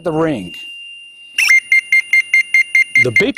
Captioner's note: receiver starts beeping